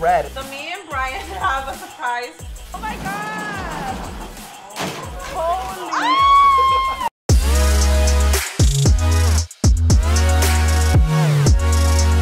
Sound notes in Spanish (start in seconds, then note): 5.4 gritos